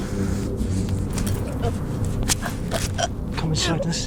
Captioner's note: Sarah choking